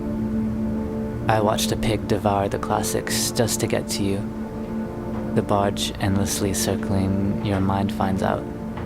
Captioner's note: 𝘧𝘰𝘰𝘵𝘴𝘵𝘦𝘱𝘴